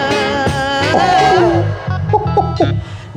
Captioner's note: laughing